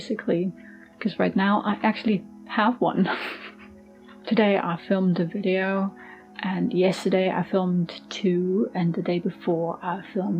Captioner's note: laughs